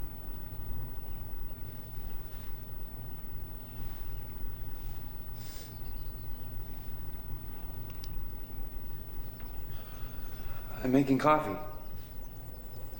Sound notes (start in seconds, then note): 5.3 sniffs